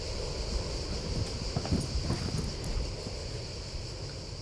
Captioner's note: insects chirping